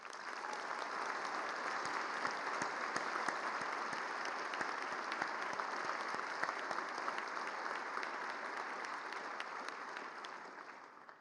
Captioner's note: applause